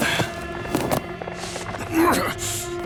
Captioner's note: groaning